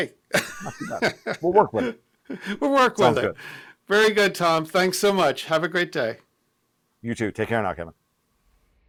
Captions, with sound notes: - Hey. (both laughing) - We'll work with it. - We'll work with it. - Sounds good. - Very good, Tom, thanks so much. Have a great day. - You too. Take care now, Kevin.